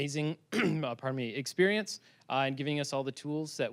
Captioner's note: clearing throat